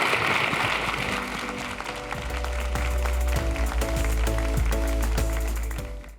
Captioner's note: applause